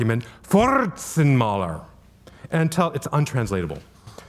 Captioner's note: speaking German